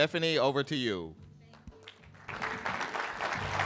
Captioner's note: applause